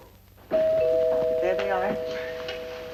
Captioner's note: door bell ringing